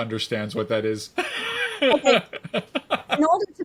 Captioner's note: laughs